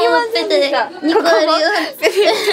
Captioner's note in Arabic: ضحك